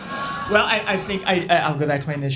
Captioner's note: laughs